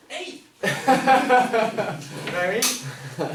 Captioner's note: class laughs